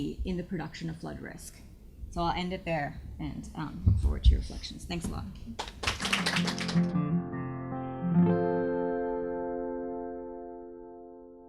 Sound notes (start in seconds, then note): 5.5 audience applauds; 6.3 gentle music